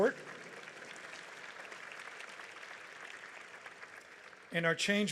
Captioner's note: audience applauds